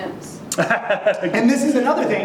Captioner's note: laughs